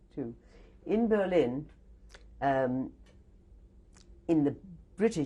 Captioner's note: pauses for 3 seconds